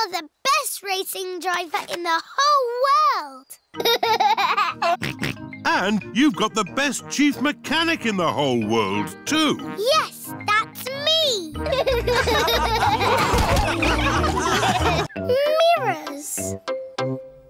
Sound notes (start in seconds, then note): 3.8 laughs and snorts; 11.6 all laughing